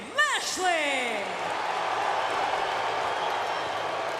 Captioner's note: crowd boos